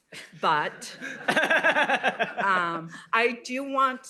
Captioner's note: laughter